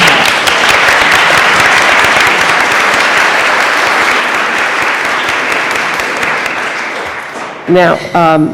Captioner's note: applause